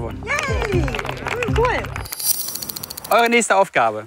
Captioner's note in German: Applaus aus dem Off